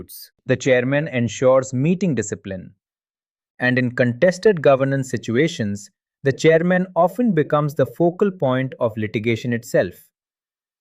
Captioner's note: thoughtful